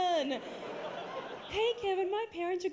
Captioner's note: higher voice